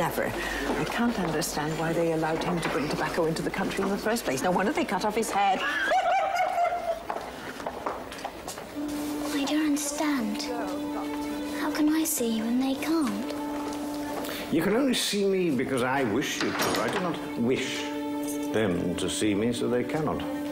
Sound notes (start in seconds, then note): 5.5 women laughing; 9.0 dramatic music